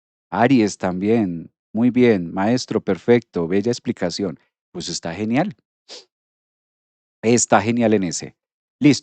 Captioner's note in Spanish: resoplido